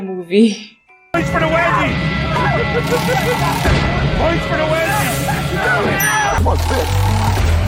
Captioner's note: scream of pain